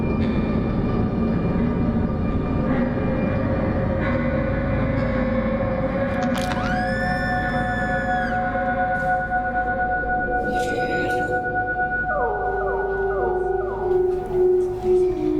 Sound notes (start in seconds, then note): 0.3 ominosa de la música; 6.4 gritos; 9.5 ominosa de la música; 14.9 ominosa de la música